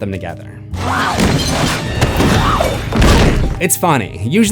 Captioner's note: screams